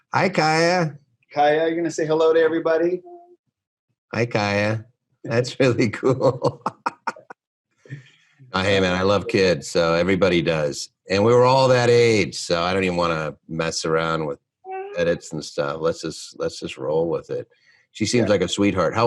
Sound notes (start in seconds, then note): 5.8 laughing